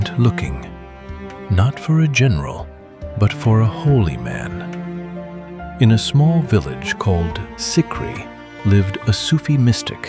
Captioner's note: thoughtful